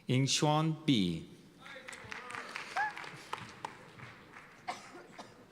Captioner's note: cheers and applause